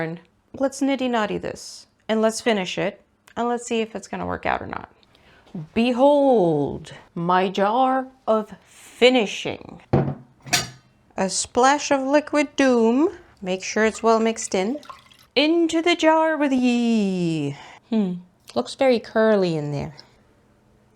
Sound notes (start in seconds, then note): 10.4 metal lid clanks; 12.9 water sloshes